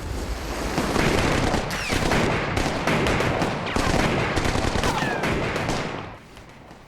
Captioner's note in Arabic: إطلاق نار